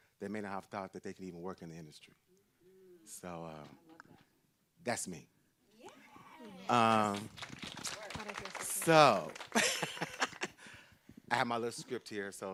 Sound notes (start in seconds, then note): 6.4 group clapping; 9.3 laughs